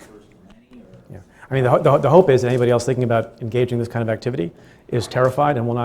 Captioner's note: stutters